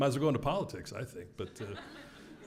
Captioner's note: laugh